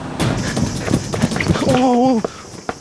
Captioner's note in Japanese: 息切れ